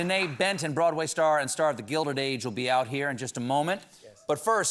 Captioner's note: applause